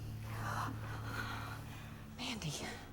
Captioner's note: gasps